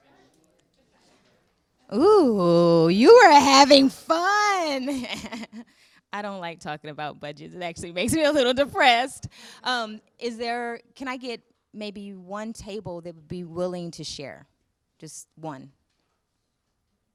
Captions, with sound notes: Ooh, you were having fun! (laughing) I don't like talking about budgets. It actually makes me a little depressed. Can I get maybe one table that would be willing to share, just one?